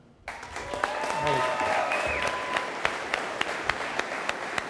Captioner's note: audience applauding